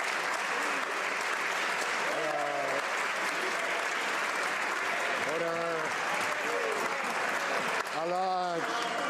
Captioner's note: some Applause